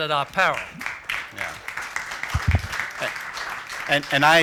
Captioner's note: applause